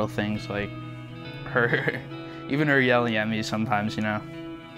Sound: laughing

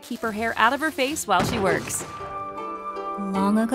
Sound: small explosion

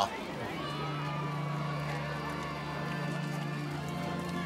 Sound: paparazzi clamoring

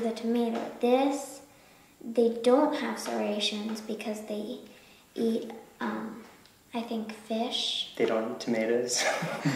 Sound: laughing

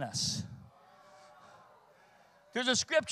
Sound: congregation reacts

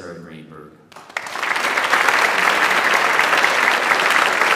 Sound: audience applauds

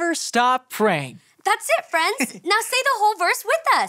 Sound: Marty giggles

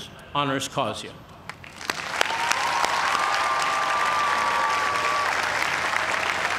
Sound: cheers and applause

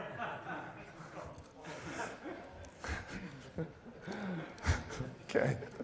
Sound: laughter

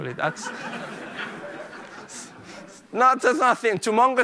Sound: laughter

